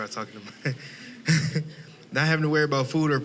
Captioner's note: chuckling